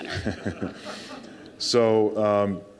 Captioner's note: crowd laughing